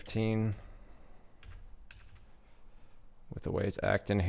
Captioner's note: keyboard clacking